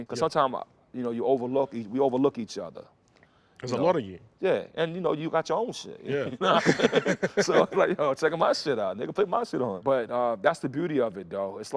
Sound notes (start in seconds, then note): 6.3 laughter